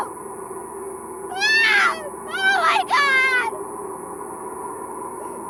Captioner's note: screams